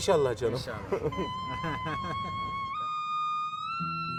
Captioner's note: chuckles